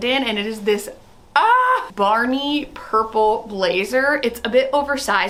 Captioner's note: exclaims